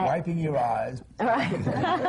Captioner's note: laughter